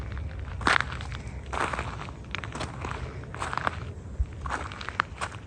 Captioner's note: wind howling; footsteps